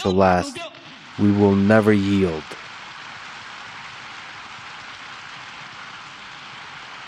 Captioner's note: audience applauding